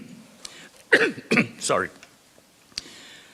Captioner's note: coughs